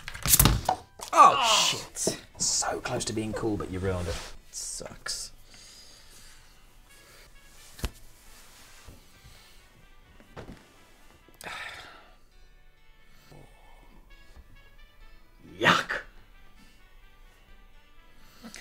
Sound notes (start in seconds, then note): 1.1 groaning